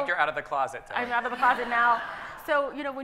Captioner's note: audience laughing